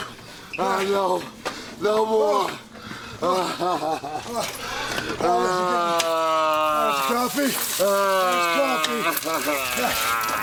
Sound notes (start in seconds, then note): 3.8 sobs